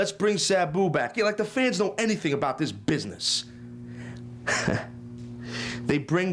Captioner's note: laugh